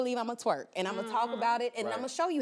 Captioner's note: laughing